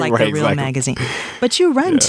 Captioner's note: laughs